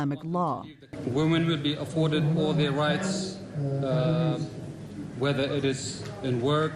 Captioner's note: through translator